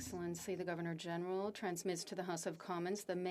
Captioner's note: speaking French